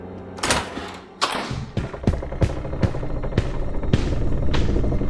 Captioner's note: wooden boards creaking